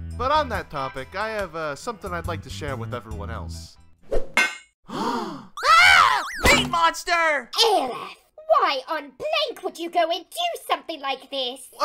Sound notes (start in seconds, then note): 4.9 gasping